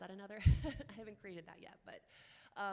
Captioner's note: chuckles